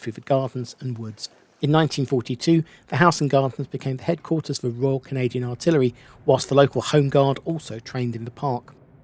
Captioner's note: none